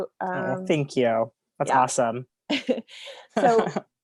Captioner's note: laughs